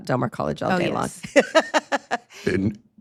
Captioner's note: laughs